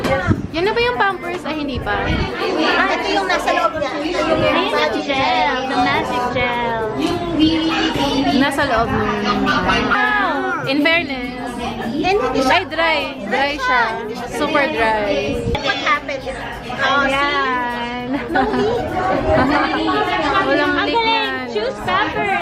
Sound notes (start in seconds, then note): 21.3 shouting